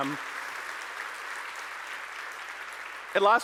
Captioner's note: audience applauding